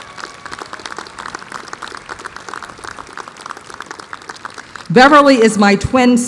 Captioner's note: applause